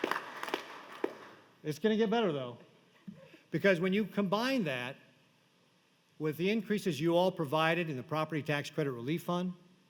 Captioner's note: applause